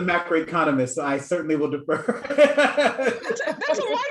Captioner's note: laughs